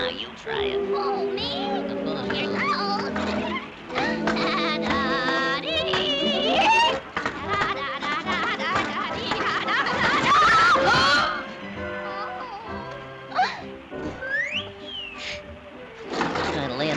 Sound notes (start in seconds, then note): 1.5 giggles; 10.0 Olive screams; 10.5 body slams